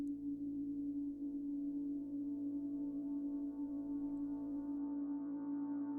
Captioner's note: tone continues reverberating